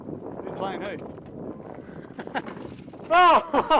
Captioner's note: laughs